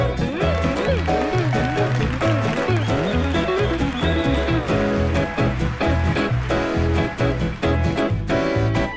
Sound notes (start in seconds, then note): 0.2 audience applauding; 0.3 audience cheering